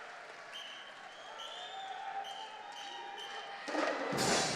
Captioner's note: whistle tooting; festive percussion music